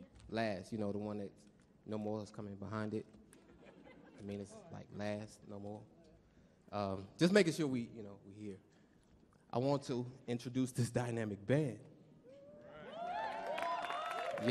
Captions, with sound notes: Last, you know the one that no more is coming behind it. [audience chuckles] I mean it's like last, no more. Just making sure we here. I want to introduce this dynamic band. [audience cheering] [audience clapping]